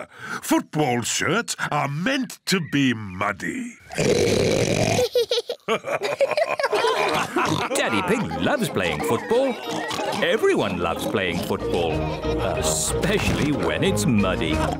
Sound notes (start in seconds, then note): 3.6 oinks loudly; 4.9 both laugh